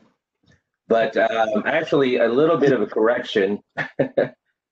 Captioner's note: laughing